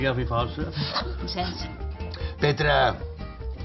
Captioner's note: discreet lauhg